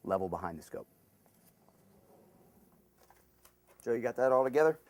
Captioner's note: pause